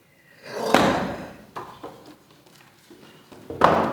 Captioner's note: Nugget stomps